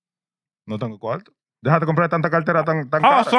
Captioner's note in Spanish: Hablando en idioma extranjero